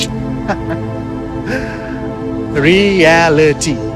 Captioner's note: Dan laughs; slow synth music